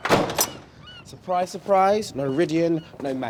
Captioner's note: door clangs